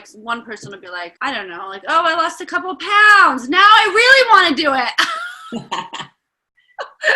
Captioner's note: laughter